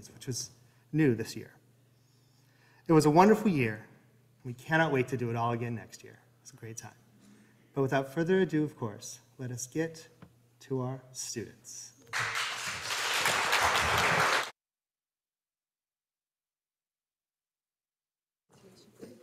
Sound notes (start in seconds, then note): 12.1 audience applauding